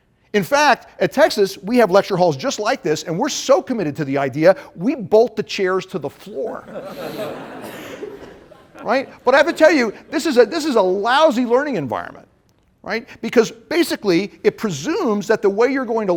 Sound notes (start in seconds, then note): 6.6 laughter